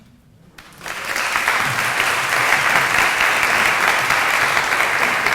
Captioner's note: audience applauding